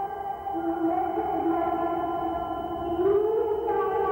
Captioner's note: humming